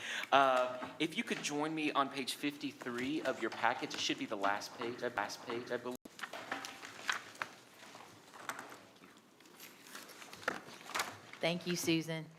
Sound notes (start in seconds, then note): 6.0 papers rustling